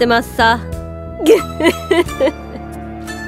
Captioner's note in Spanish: risa